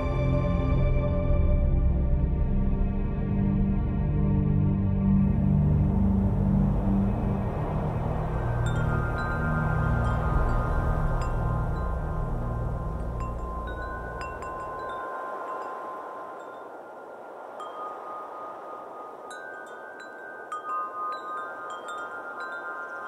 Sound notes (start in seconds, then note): 0.1 soft Music; 7.3 soft Wind and Chimes